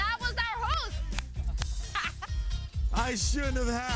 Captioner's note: laughs